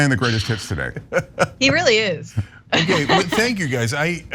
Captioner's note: laugh